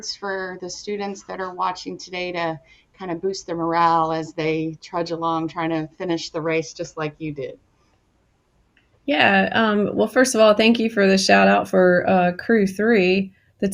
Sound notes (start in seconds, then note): none